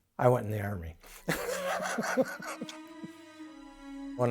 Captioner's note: brothers chuckling